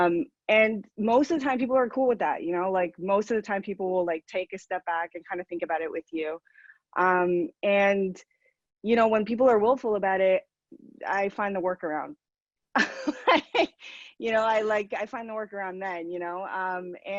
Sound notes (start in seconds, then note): 12.1 laughs